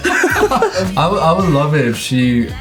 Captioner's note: everyone laughing